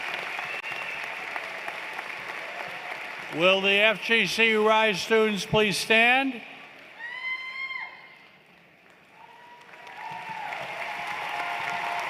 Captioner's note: cheers and Applause